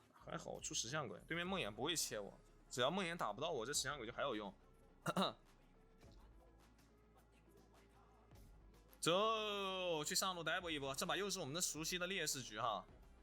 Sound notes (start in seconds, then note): 5.0 coughs